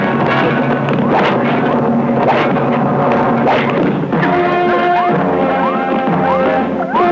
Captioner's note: dramatic music; electronic beeping; whacking; dramatic music